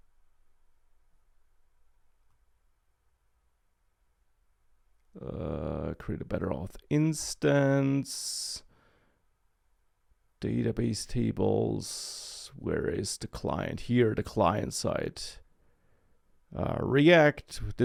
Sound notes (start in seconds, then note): none